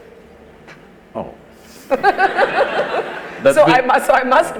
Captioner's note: laughter